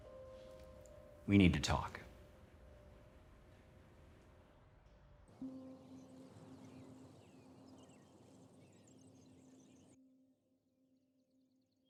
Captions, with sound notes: - We need to talk. (birds singing)